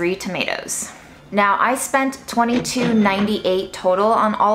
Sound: cash register ringing

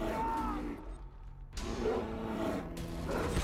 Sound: grunting; growling

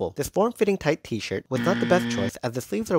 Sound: buzzer sound

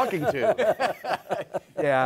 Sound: laughter

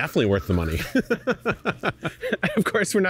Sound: laughing

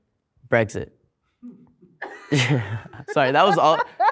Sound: laughing

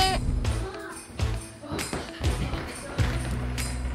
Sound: kids chattering

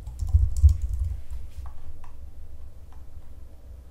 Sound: mouse clicking

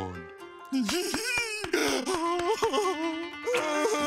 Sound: giggling, clapping

